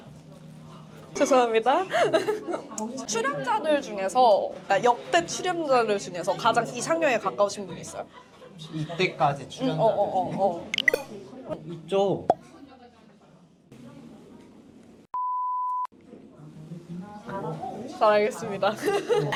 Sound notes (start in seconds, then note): 1.8 giggling